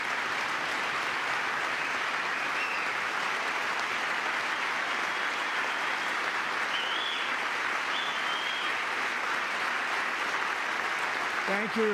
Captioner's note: applause